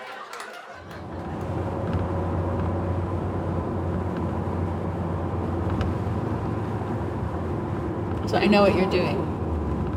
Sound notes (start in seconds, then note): 1.5 traffic whooshing